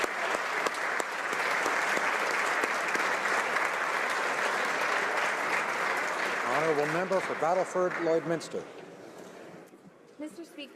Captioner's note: applause